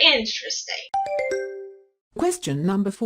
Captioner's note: question ding